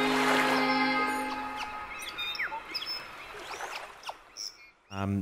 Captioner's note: birds chirping